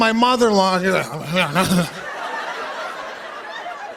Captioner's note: stammering